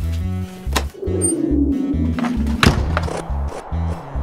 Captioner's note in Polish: Zamknięcie drzwi